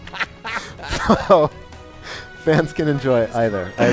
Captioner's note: laughing